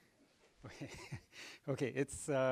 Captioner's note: laughter